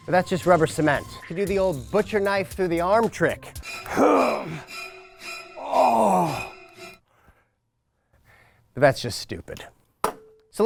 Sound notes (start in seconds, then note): 3.5 suspenseful music; 3.8 man groaning